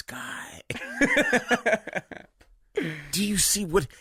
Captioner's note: Jagger laughing